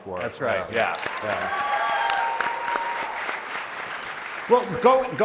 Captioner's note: applause